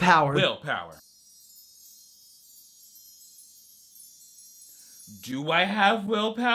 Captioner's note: twinkling electronic sound